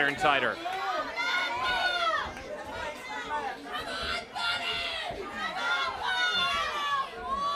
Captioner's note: crowd chatter